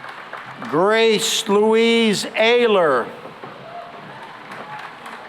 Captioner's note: applause